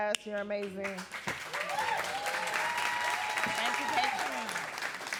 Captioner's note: audience clapping and cheering